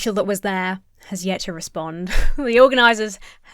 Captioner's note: huffs